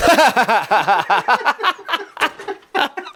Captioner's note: laughing